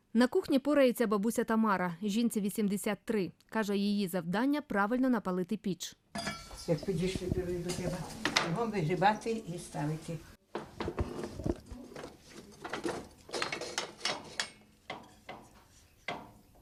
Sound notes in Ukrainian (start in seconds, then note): 12.0 Брязкіт противня